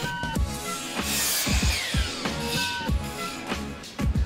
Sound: saw blade whirring

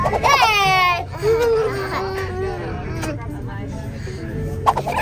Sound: lips smooching

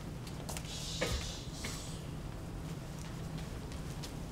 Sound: shushing

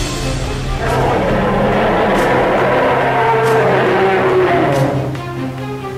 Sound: Kyuubi is roaring

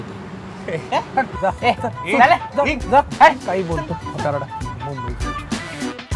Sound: scoffing

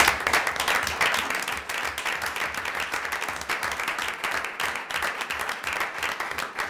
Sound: applause

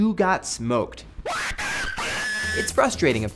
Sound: high pitched screaming

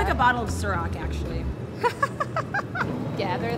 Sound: laughs

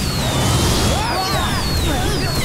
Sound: screaming

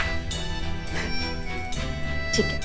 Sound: laughs

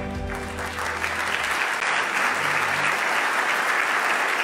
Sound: loud clapping

